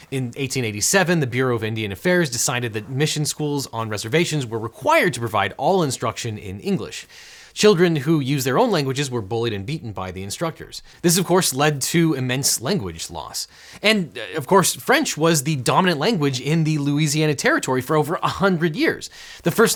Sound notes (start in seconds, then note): none